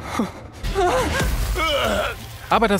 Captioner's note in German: Stöhnen, Ächzen